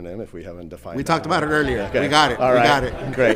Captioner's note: group laughing